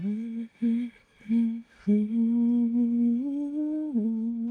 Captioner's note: humming